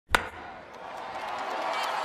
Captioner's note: crack of a bat; cheering